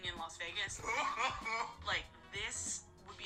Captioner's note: man laughing